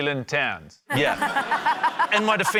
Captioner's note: laughter